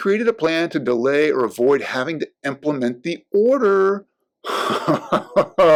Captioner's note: giggling